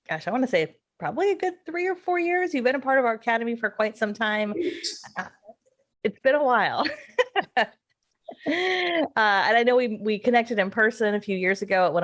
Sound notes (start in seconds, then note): 8.4 laughs